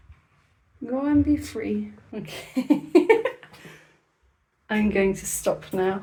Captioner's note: laughing